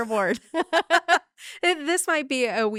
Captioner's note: laughing